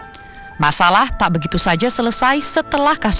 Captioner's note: non-english speech